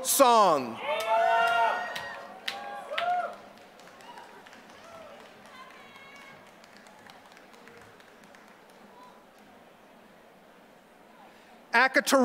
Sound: applause

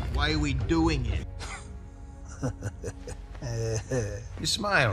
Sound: yondu chuckling

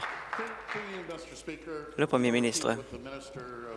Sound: applause

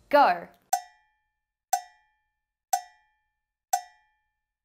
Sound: cowbell clanging

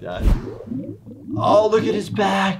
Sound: water bubbling

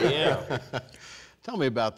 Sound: laughing

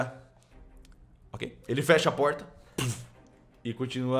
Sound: puff

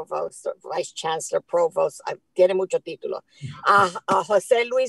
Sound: foreign language

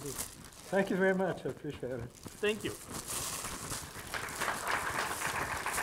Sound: audience applause

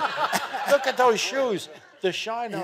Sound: audience laughing

